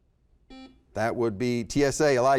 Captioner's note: beep